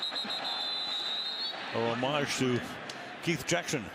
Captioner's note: whistling